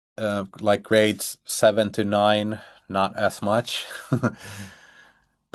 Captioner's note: chuckles